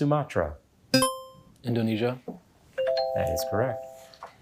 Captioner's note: buzzer ringing; bell ringing